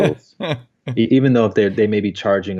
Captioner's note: laughs